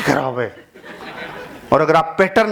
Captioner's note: laughing